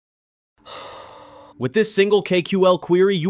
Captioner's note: breath